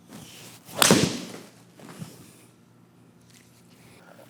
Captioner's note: golf club impacts